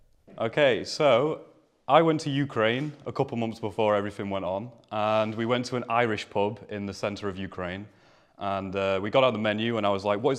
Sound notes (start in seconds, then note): none